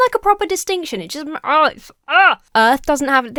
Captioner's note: groans